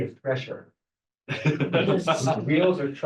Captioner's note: group laughing